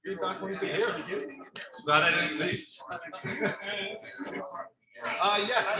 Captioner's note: people chattering indistinctly